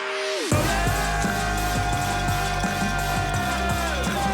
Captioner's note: people cheering